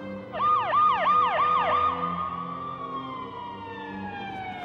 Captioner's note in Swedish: sirenen ljuder